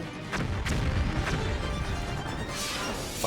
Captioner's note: whale explodes; air whooshes